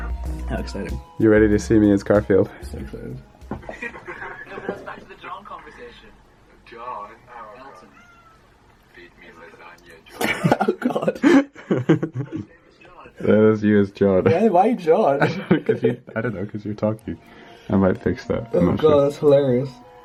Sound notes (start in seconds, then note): 10.2 laughs